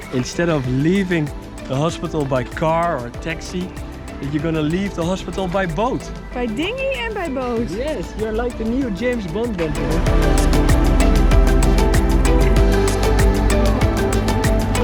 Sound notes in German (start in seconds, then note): 7.0 murmelt; 10.1 beschwingte Musik